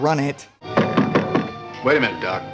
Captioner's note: knocking